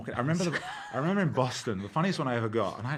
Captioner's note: laughing